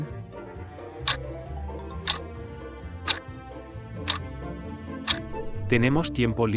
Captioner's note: FX - Clock Tick